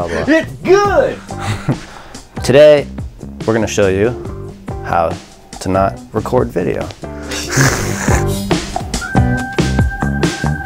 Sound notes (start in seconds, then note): 1.2 laughs; 7.2 laughs